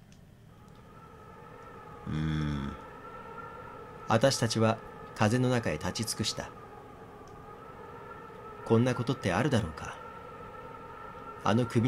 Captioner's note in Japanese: 風の吹く音：ﾋｭｳｫｫｫ…